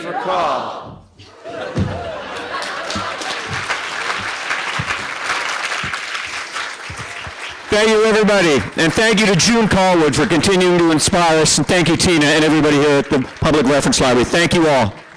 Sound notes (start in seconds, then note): 1.3 laughter; 3.4 applause